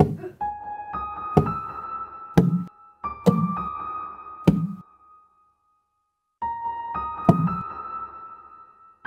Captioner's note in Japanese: ダーツの刺さる音; 次々にダーツの刺さる音